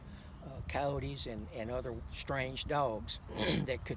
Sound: clears throat

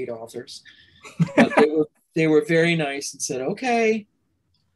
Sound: laughter

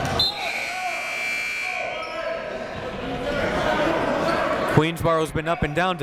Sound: whistle blows; buzzer goes off

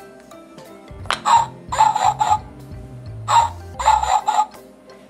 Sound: dog Sound

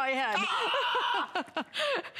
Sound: laughter

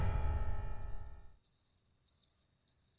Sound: crickets chirping

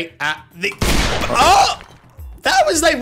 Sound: gunshot

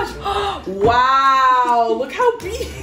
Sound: gasps

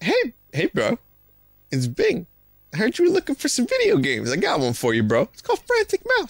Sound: mockingly

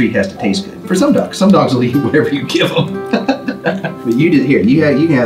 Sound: laughs

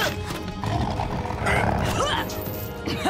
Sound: grunting; chuckles

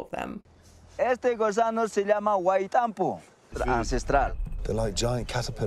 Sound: man speaking in foreign language

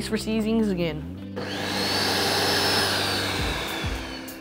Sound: blender whirs

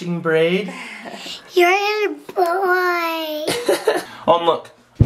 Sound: laughing

